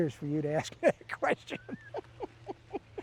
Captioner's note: laughing